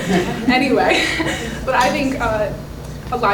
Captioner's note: audience Applause